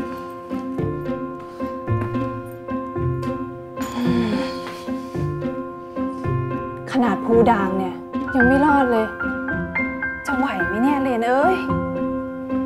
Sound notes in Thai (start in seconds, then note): 3.8 เสียงถอนหายใจ